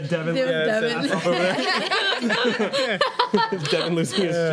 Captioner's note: laughing